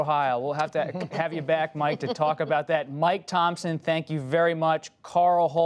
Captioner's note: laughter